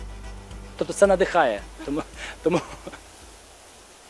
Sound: chuckles

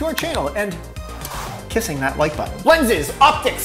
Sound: lips smack

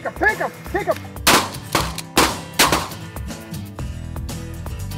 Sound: gun firing

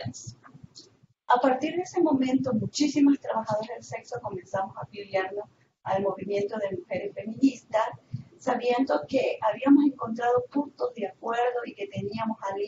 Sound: Spanish

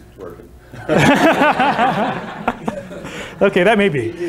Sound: laughter

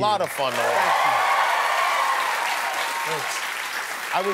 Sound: applause

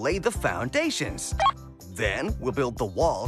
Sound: beep

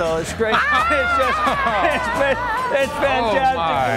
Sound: guys laughing

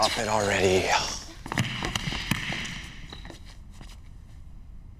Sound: heavy footsteps echo

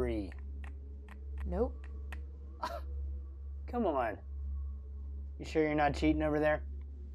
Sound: scoffs

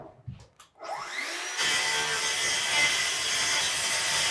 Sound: saw buzzing

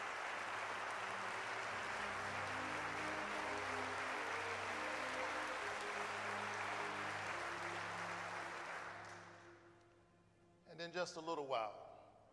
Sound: applause

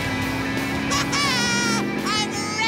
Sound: laughing

